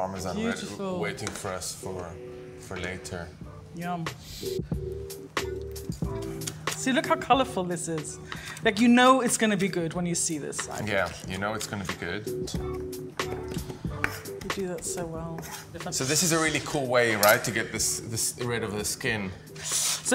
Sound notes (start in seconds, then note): 4.7 upbeat music; 12.0 singer humming; 12.0 upbeat music